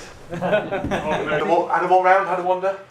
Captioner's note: laughter